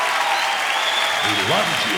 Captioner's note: clapping and cheering